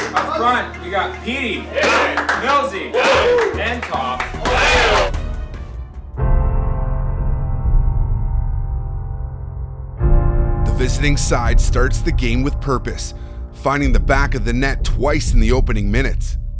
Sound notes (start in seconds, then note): 1.6 claps; 6.3 dramatic music